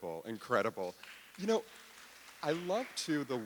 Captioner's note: audience applauding